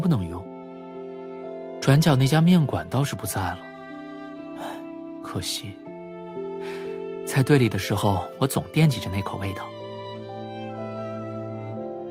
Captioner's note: sigh